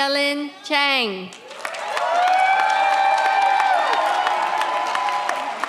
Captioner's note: audience cheers